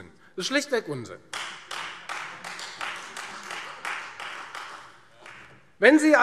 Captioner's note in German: Beifall Freie Demokraten